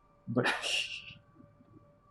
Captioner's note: laughs softly